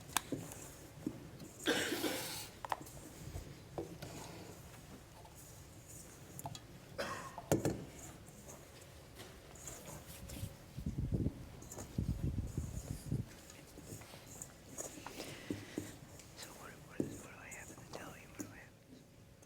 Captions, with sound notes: (WHISPERING) So what do I have to tell you? What do I have?